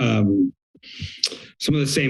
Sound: clicks tongue

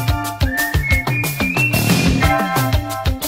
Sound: whistling again

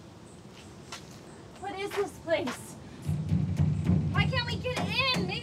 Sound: pounding

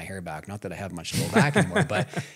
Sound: laughs

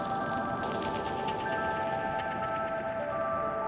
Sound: sleigh bells

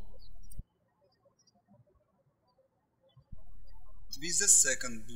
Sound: birds chirping

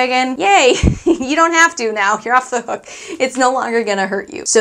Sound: chuckling

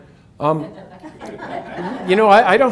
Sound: audience laughs

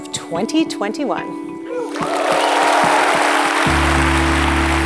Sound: applause

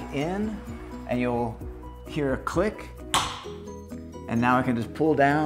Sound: carrier locking

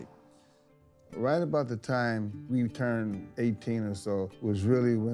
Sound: voiceover

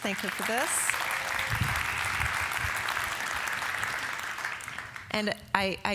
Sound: applause

